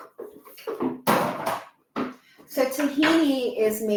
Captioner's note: items clatter